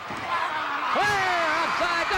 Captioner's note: Ric yelling